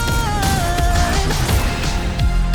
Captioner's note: car engines roaring